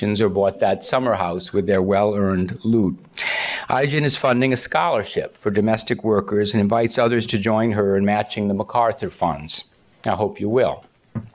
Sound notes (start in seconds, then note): none